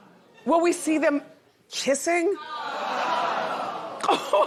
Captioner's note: laughter